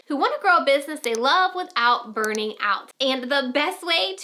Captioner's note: mouse clicks